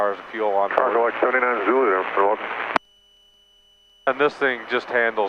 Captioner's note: man mumbles on radio